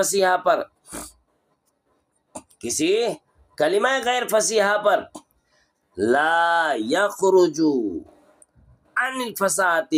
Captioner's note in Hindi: नाक से की जाने वाली आवाज़